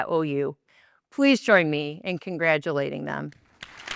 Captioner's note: applause